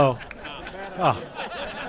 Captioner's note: laughter